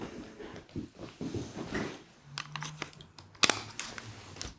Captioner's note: camera clicking